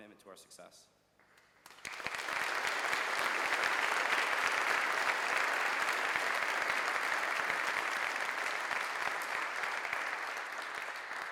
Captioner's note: applause